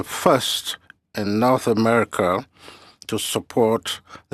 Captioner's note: speaking french